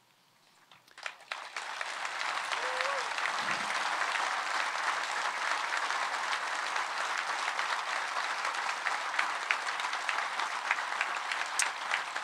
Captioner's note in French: Applaudissements